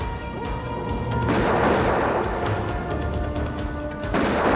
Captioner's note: gun firing